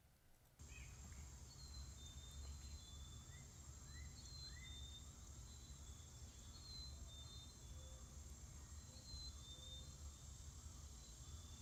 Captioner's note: sounds of insects buzzing and birds chirping